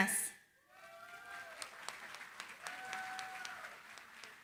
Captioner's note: cheering, applause